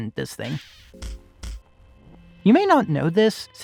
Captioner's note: stomps